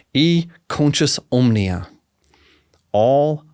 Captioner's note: speaking in Latin